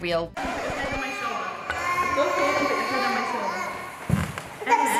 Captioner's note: children crying